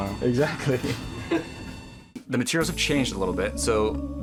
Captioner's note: men laughing